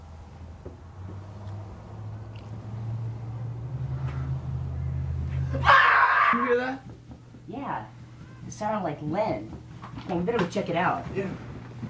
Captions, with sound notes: (screaming) Did you hear that? Yeah, it sounded like Len. Come on, we better go check it out.